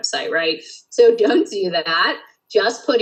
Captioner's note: laughs